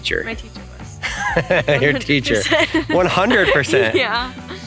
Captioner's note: laughing